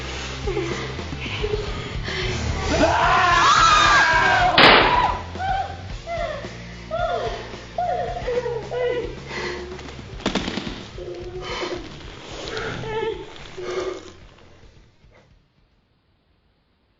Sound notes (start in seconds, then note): 3.0 Tim yelling; 4.5 gun firing; 9.7 sobbing